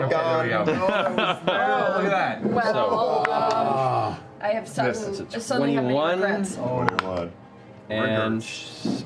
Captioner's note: groaning